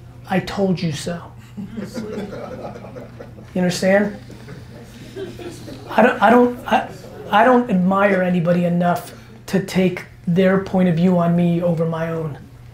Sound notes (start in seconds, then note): 1.5 audience laughing